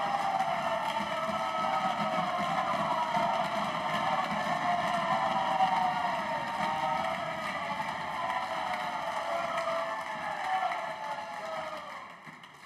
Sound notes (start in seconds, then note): 0.0 applause